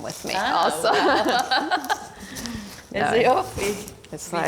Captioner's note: laughing